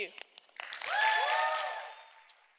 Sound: audience claps

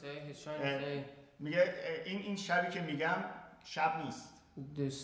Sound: speaking in farsi

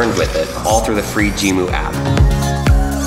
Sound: robot squeaking; bright electronic music

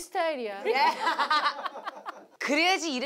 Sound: hahahahahhahaa

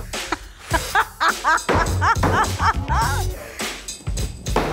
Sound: laughs

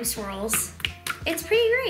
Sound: sploshing

